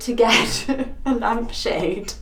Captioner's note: laughs